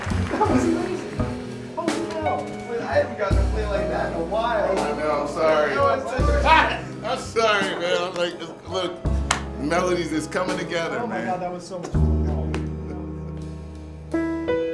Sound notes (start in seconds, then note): 0.1 laughing; 6.6 laughter